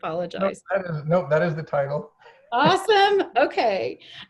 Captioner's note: laughing; chuckles